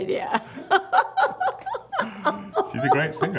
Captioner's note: laughter